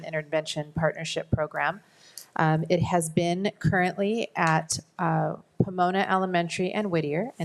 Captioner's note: none